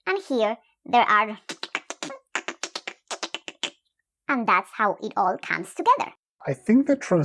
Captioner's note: alien sounds